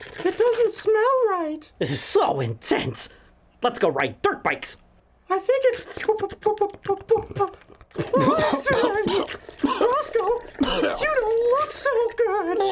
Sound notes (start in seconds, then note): 0.0 stuttering; 7.1 stuttering